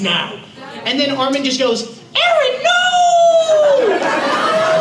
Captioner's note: high-pitched voice